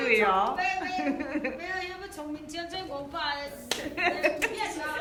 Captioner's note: speaking foreign language